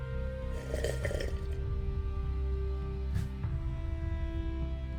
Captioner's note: coffee sip